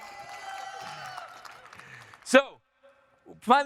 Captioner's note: audience cheering